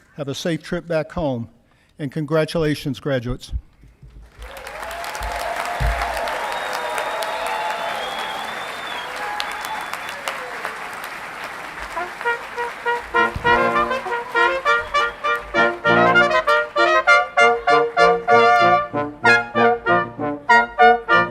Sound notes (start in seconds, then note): 4.6 audience clapping and cheering; 12.5 upbeat music